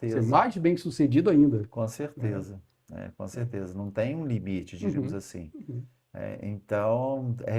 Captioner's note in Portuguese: limpando a garganta